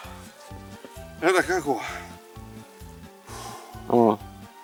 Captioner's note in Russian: выдох